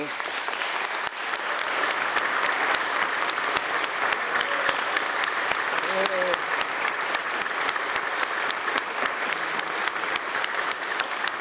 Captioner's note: applause